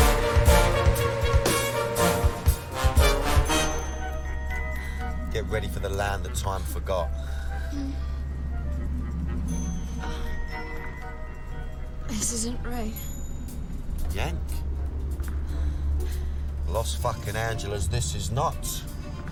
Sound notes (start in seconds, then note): 8.7 moaning